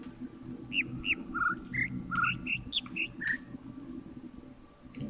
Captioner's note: overlapping birds chirping, ˥ ˥ ˩ ˧ ˩